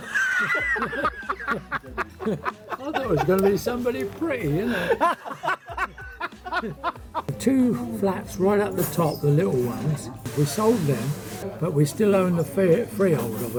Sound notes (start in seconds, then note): 0.0 laughing